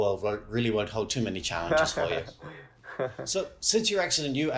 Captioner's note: laughs